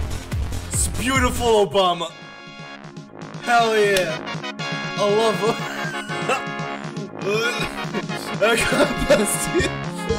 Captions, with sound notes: It's beautiful Obama. Hell, yeah. I love-- [LAUGHTER] I got blessed with--